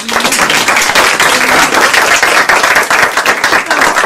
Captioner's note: applause